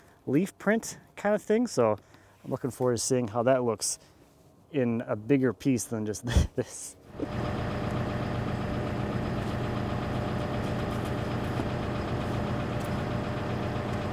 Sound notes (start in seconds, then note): 6.2 chuckles; 8.9 machinery motor running